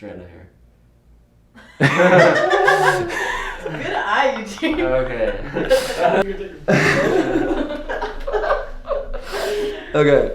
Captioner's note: laughter